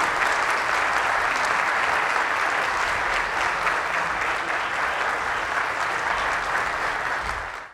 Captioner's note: applause